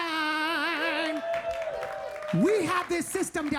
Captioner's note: audience applauding and cheering